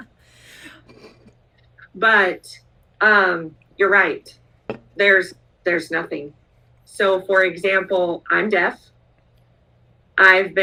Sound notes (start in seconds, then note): 0.4 laughs